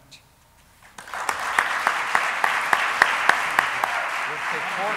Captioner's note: applauding; speaking drowned out by applause